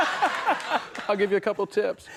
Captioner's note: Conan laughs